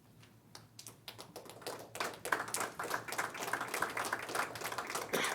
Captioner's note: crowd applauding